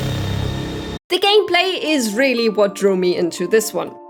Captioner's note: high pitched horror sound